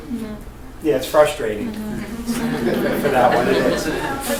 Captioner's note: all laugh